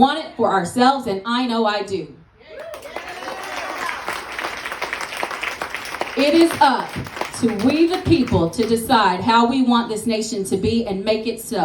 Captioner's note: applause